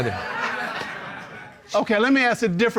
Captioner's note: audience laughing